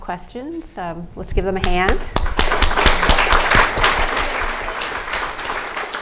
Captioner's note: applauds